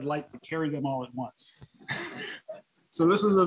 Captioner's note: laughter